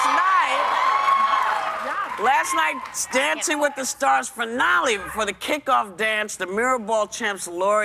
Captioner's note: cheers and applause